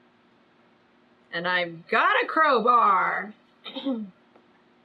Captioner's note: clears throat